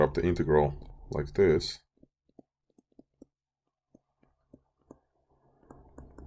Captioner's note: clicking Sounds